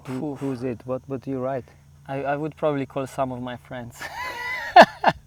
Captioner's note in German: Lacht